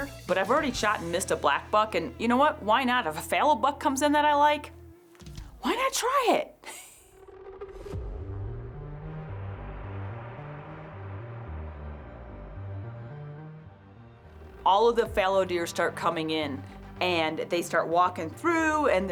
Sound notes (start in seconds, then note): 6.4 chuckling; 8.0 suspenseful music